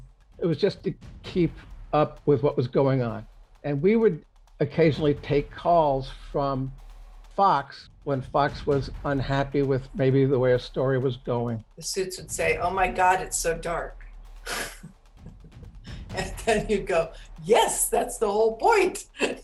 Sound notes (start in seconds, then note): 15.2 laughs; 19.2 laughs